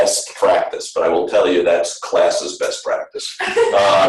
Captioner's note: laughter